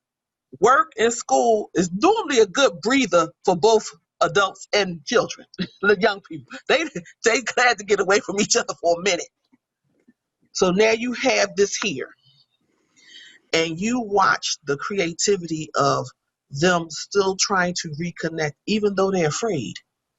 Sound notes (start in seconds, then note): 5.5 laughs